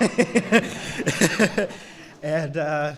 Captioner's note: laughter